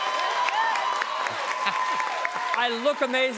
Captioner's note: cheers and applause continues